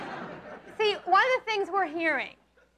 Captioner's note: audience laughs